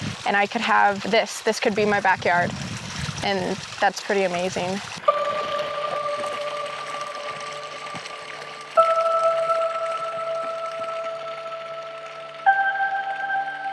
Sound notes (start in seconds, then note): 5.0 slow, calming synth tones; 5.1 water running